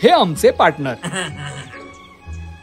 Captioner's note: grunts